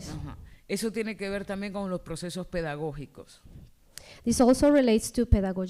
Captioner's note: speaking spanish